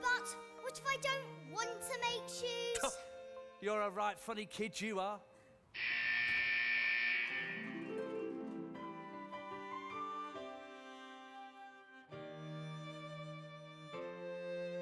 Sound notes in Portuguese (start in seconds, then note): 3.1 laughs; 5.7 alarm blaring